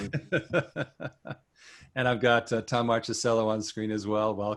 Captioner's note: chuckling